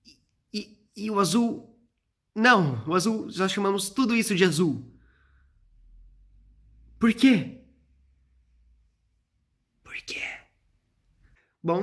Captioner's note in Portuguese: sussurrando